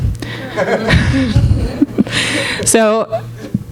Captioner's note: audience laughing